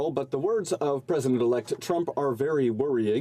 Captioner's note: speaking French